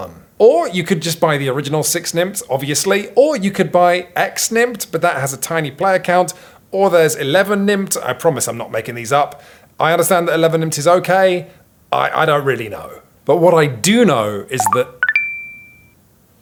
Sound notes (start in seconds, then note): 14.6 phone beeping